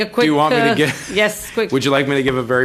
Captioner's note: laughter